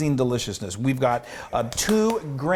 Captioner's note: clapping